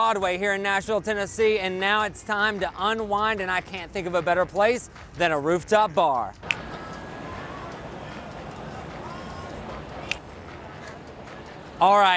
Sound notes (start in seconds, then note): 6.4 magic snaps